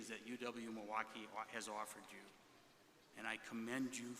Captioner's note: none